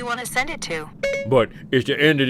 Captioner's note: annoying Siri beep